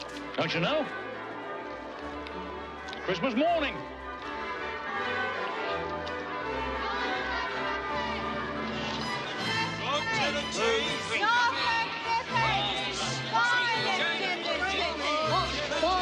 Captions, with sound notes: Don't you know? Christmas morning. [CHATTERlNG]